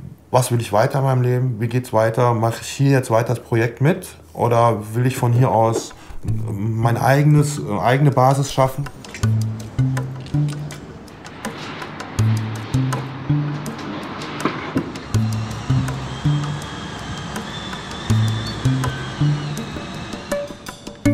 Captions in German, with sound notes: was will ich, wie geht's weiter, mach ich weiter das Projekt mit, oder will ich von hier aus meine eigene Basis schaffen. (Erwartungsvolle Musik) (Bohrgeräusche)